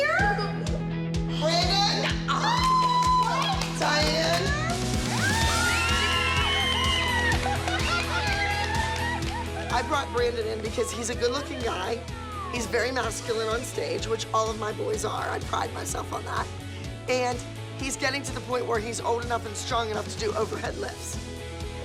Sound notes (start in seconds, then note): 5.1 cheering